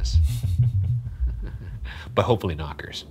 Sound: snickering

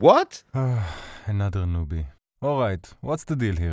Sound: sigh

